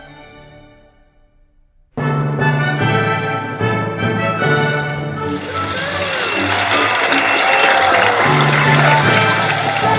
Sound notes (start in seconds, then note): 2.0 triumphant orchestral music; 3.2 attendees applauding